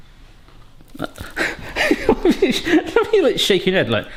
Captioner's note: quiet laughter